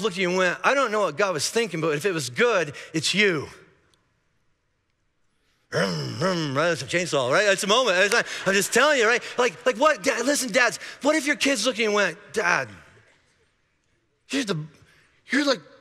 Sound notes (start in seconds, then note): 8.5 congregation laughing